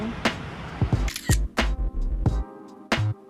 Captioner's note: camera Shutter